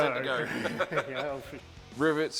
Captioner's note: laughter